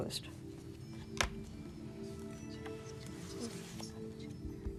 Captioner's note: whispering